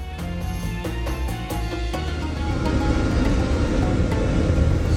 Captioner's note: aeroplane taking off